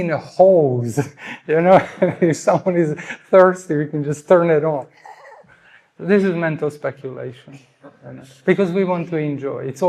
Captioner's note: nevetés